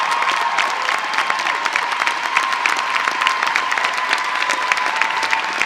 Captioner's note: applause